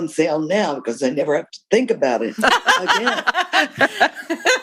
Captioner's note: laughter